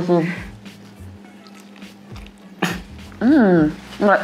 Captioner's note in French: ASMR noise